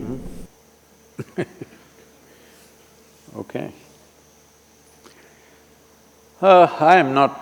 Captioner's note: laughs